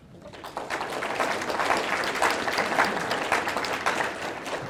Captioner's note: audience applauding